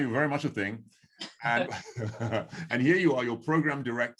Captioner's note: both laughing